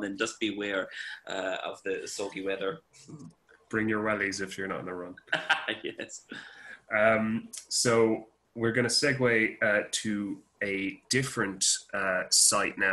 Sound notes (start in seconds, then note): 3.8 laughs